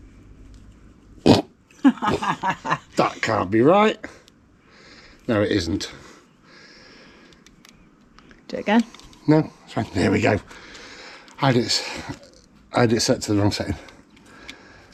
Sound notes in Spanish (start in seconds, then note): 1.8 risas